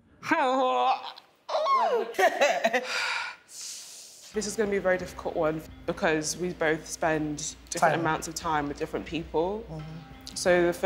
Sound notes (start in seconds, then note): 1.6 laughs